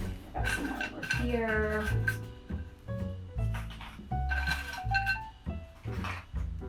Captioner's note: crackers clinking